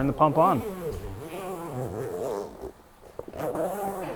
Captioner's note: zipping noise